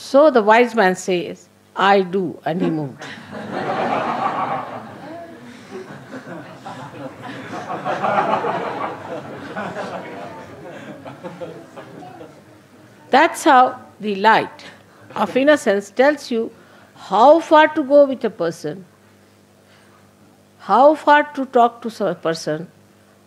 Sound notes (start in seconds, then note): 7.4 laughter